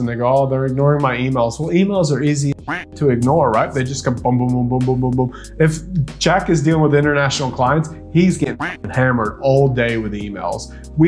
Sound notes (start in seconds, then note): 2.6 duck quacking; 8.6 duck quacking